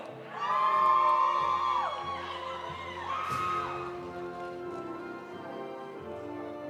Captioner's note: audience applauding; audience cheering